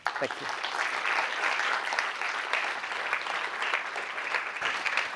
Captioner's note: applause